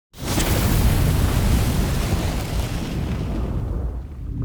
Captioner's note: fire bursting